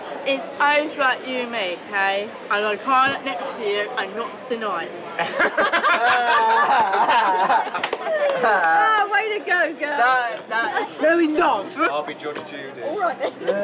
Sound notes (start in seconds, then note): 5.2 everyone laughs; 13.1 laughter